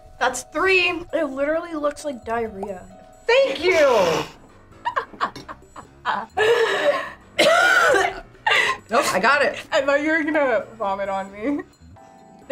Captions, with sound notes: - That's three! It literally looks like diarrhea. - Thank you! (coughs) Nope, I got it. - I thought you were gonna vomit on me.